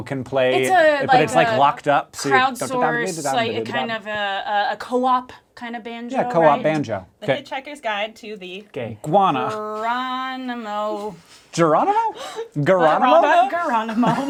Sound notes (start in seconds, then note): 9.6 awkward sing-song